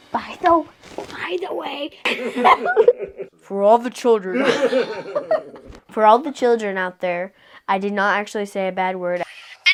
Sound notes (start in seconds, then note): 0.5 whispering; 2.0 laughing; 3.3 deep announcer voice; 4.3 laughing